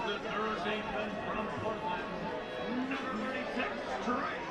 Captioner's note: chatter